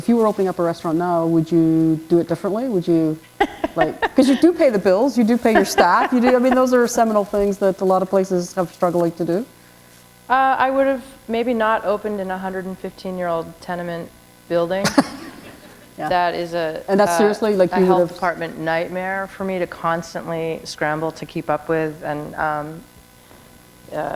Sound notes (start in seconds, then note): 3.2 chuckle; 14.9 chuckle